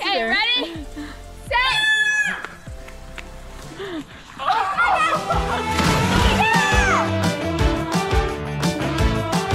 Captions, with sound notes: - Okay, get ready, set, (splashing sound) (upbeat music)